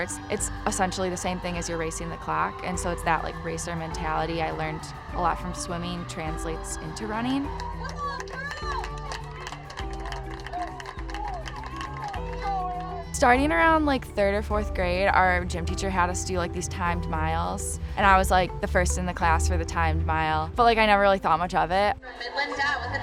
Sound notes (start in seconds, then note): 8.1 cheering and applauding